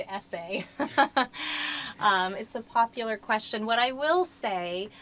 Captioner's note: laugh